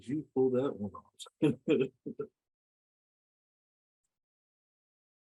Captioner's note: presenter laughing